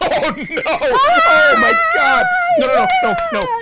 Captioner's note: cheering